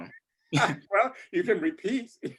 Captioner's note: laughs